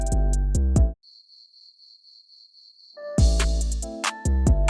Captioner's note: crickets chirping